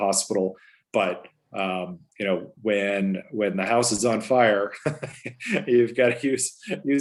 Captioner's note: laughs